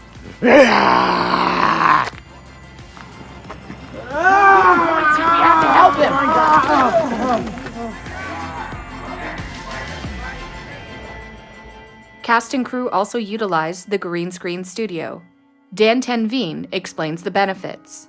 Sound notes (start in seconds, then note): 0.2 growls; 4.0 shouting